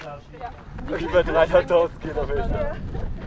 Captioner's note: laughter